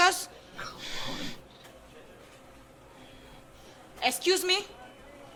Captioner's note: Charlie sighs loudly